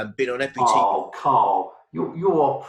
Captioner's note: murmurs